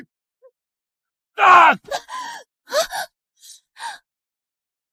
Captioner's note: screams